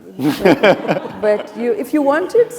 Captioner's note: audience applauding